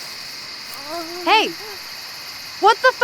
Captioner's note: moaning